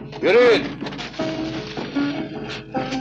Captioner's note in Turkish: none